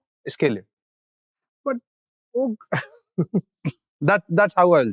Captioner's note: chuckles